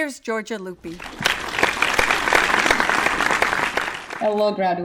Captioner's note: audience applauds